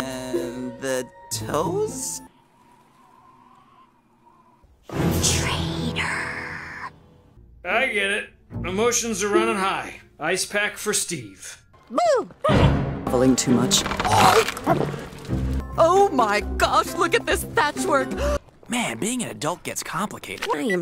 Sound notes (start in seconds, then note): 11.9 yelp; 14.0 chomp; 14.1 swallow; 18.0 gasp